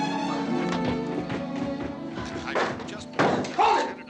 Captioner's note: radio: announcer continues speaking